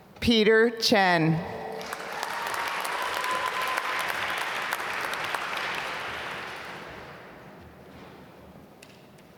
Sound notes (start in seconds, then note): 1.7 applause